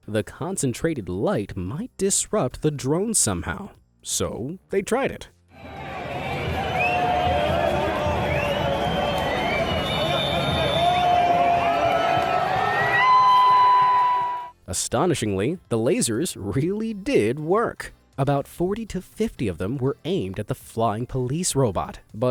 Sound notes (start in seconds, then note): 5.6 protesters shouting; 10.8 protesters cheering